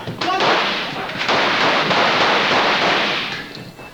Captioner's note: rapid gunfire